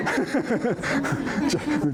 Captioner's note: laughter